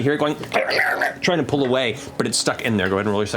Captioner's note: insect chitter